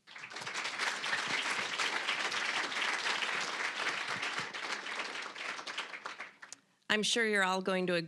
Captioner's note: applause